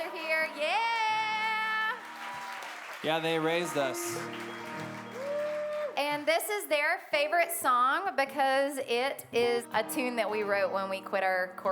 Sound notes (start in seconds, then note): 2.7 crowd cheering